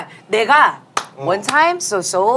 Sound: clap

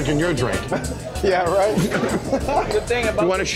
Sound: laughs

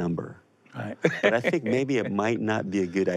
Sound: laughs

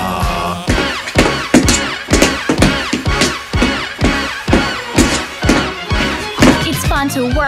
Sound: unbelievably beautiful rhythmic tapping

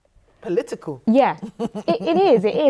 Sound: chuckles

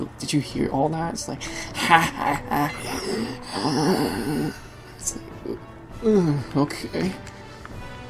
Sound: inhales

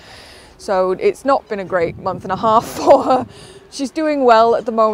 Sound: laughs

